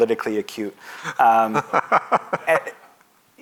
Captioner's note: laughing